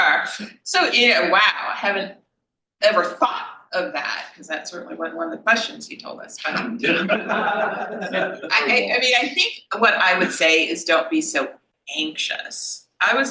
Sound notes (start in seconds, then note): 6.6 panel laughs